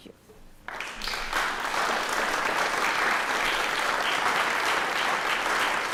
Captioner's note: applause